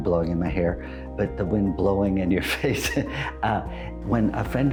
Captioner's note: laughs